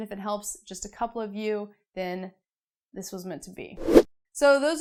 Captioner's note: air whooshing